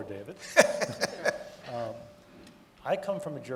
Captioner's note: laughing